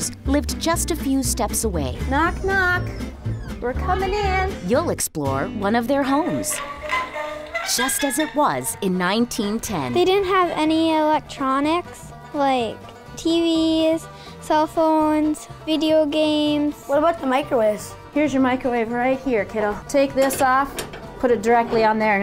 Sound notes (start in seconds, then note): 2.0 female voice; 9.8 child voice; 16.8 child voice; 17.9 female voice